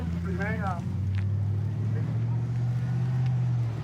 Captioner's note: truck driving